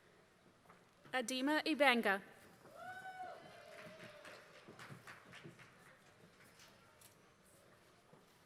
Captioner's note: applause